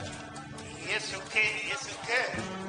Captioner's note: actor over loudspeaker